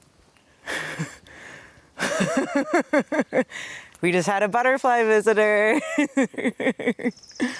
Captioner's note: laughs; laughs